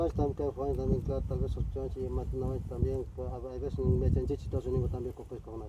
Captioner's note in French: parler une autre langue